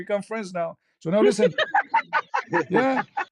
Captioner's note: ketawa